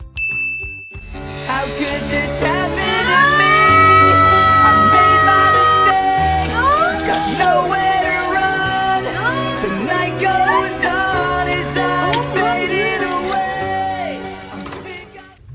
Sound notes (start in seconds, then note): 2.9 depressing music; 9.8 squeak